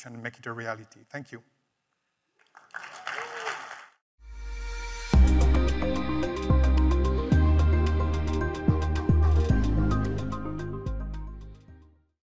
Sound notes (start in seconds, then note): 2.5 audience cheers and applauds; 5.1 gentle upbeat music